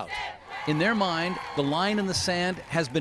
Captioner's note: chanting